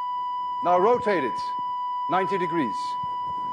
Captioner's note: tone stops